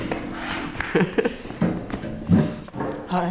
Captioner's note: laughter